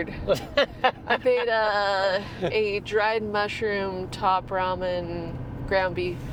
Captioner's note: laughing